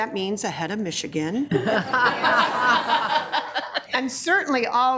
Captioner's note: people laughing